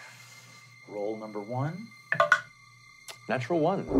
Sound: dice rolling

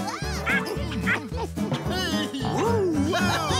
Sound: laughing and cheering

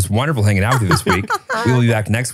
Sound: laughs

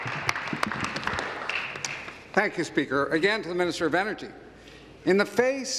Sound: applause

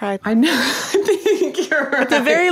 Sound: person laughing

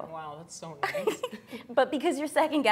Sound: chuckles

